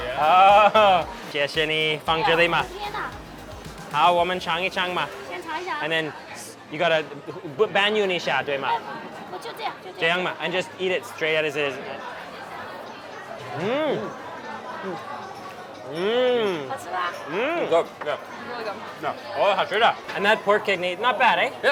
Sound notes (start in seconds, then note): 0.6 speaks in a foreign language; 2.5 woman speaks in a foreign language; 4.1 speaks in a foreign language; 5.1 woman speaks in a foreign language; 7.0 speaks in a foreign language; 8.7 woman speaks in a foreign language; 10.2 speaks in a foreign language; 13.7 moans; 16.5 woman speaks in a foreign language; 19.5 speaks in a foreign language